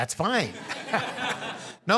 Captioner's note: laugh